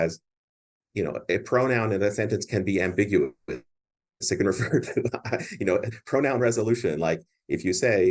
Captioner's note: chuckles